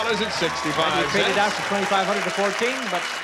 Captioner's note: applause